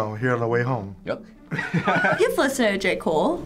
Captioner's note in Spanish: riendo